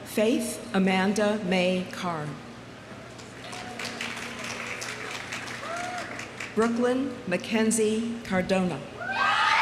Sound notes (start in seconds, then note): 3.2 audience applauding